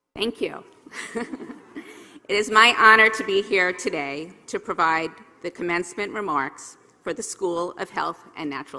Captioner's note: laugh